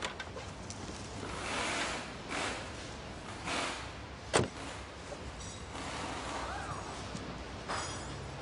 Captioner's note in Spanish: Ruidos al bajarse